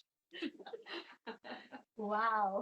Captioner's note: laughing